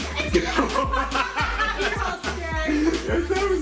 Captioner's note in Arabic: ضحك